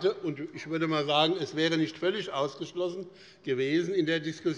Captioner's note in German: none